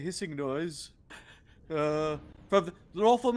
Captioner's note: Cornette laughs